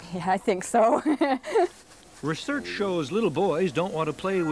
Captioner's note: laughing